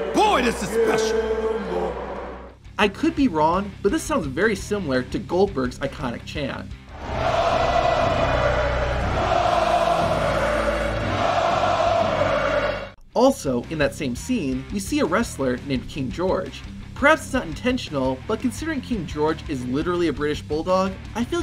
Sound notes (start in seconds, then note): 7.7 triumphant music; 11.4 crowd